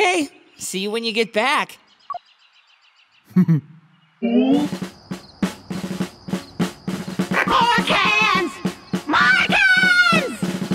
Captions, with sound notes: Okay, see you when you get back. (chuckles) (drumming) - More cans, more cans!